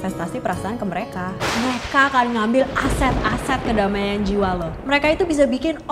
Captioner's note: thunder sound